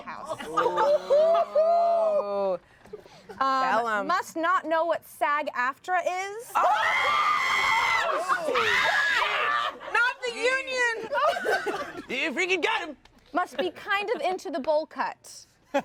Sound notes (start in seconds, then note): 0.4 everyone laughs; 6.6 everyone laughs and screams